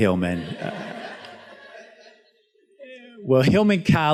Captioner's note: student laughs